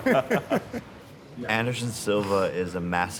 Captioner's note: laughter